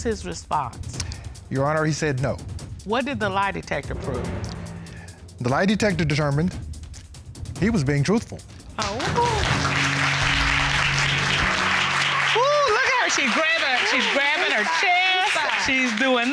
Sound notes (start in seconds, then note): 8.7 applause